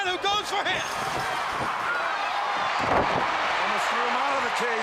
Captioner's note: crowd cheering